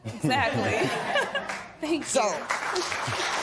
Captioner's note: laughter; applause